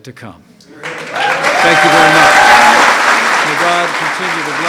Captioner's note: applause